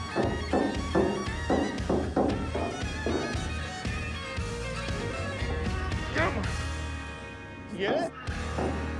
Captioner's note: hammering